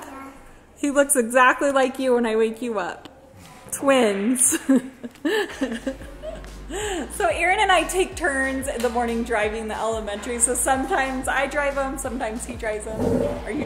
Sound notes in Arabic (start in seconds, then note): 5.0 يضحك